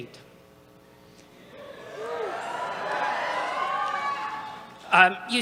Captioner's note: cheers